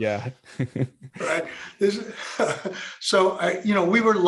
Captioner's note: both laughing